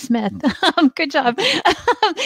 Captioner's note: chuckles